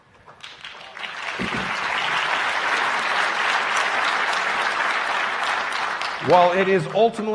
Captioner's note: applause